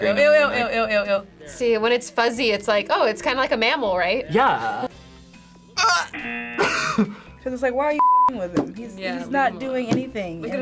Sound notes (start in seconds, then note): 6.1 buzzer rings; 6.6 laughs